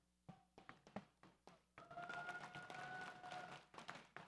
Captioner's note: audience applauds